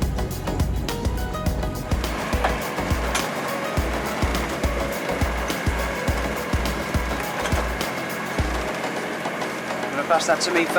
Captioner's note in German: Motorgeräusch